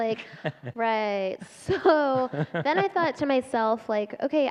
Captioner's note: laughter